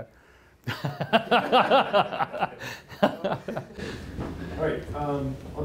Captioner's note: laughter